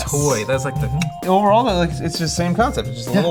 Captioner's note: click